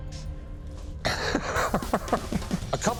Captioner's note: laughs